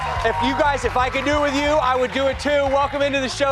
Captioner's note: cheers and applause